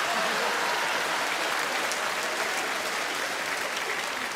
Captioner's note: audience laughing; audience clapping